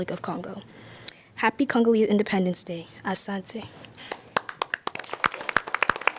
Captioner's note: applause